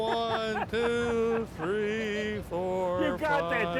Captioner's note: laughs